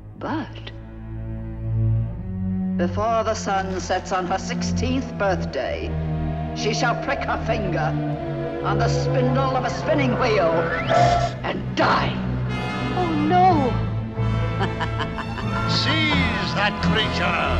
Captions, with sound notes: But, before the sun sets on her 16th birthday, she shall prick her finger on the spindle of a spinning wheel, and die! - Oh, no! (laughs evilly) - Seize that creature!